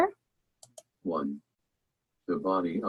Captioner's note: automated Voice